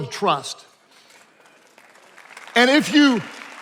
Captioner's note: attendees applauding